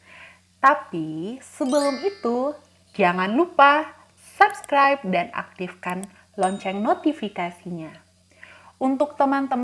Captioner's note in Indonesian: bell ringing